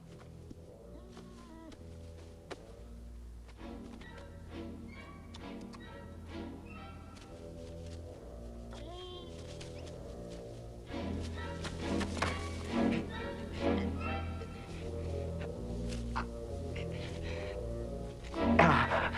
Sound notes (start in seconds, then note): 0.3 tense music; 9.0 Beast whines; 13.2 raider groaning